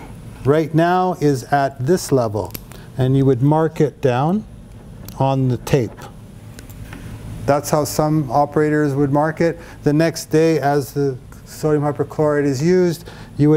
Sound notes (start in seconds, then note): none